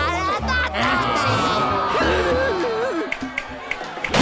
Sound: crowd groaning; snapping

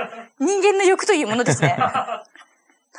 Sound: laughs

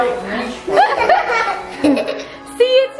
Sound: kids laughing

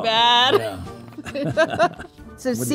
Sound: both chuckling

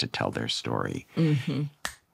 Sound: michael snaps

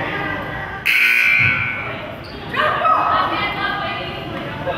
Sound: buzzer goes off

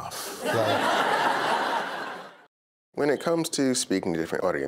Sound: laughter

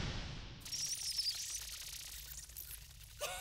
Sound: all giggle

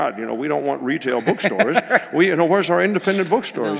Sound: laugh

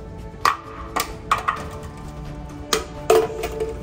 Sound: more bottles fall on the ground

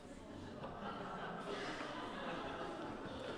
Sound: audience Laughter

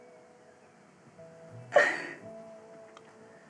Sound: sobbing

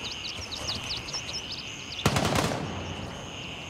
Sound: gunfire

